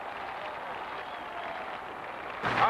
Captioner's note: crowd cheering